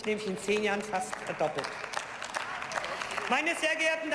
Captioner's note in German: Beifall